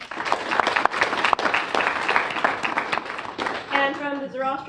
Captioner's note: applause